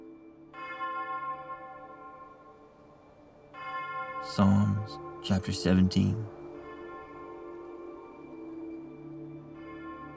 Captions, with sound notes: (church bells ringing) Psalms, chapter 17. (church bells ringing)